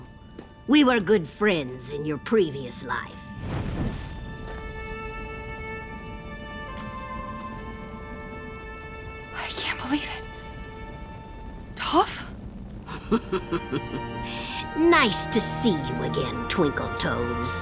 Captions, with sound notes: We were good friends in your previous life. I can't believe it. Toph? [laughing] Nice to see you again, Twinkle Toes.